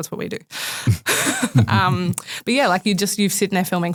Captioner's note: group laughing